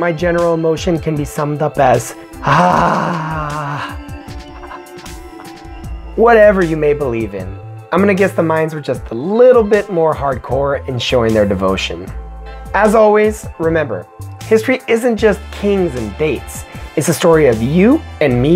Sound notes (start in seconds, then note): 2.5 scream